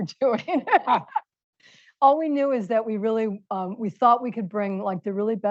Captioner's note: laughs